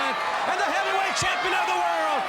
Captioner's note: crowd cheering